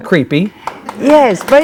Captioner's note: audience clapping